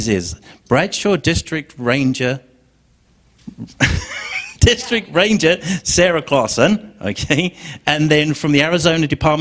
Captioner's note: laughter